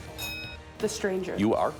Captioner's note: bell dinging